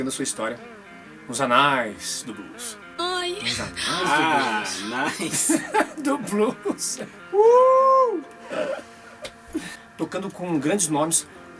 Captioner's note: laughs; groan